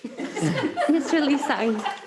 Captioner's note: board members laughs